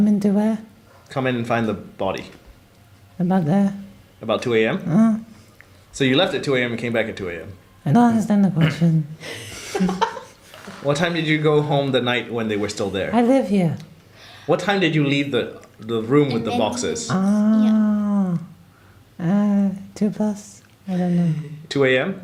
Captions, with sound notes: Come in to where Come in and find the body. About there. About 2 am? Uhuh. So you left at 2 am and came back at 2 am? I don't understand the question. *laughter* What time did you go home the night when they were still there? I live here. What time did you leave the...the room with the boxes? Ohhhhh.... Err... 2 plus? I don't know. 2 am?